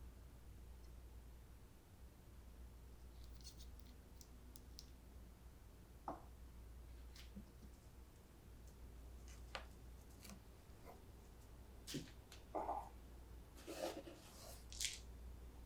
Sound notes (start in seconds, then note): none